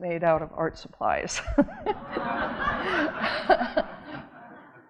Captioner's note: audience laughing